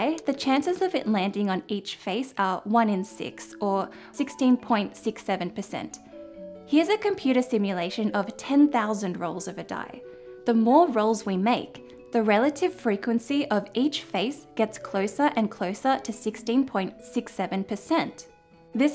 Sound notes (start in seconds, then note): none